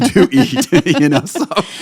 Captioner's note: laughing